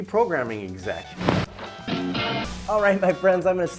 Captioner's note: static scratching